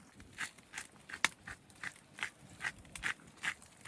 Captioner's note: grinding black pepper sounds